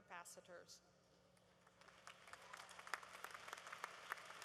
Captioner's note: applause